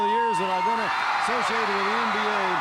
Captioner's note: crowd cheering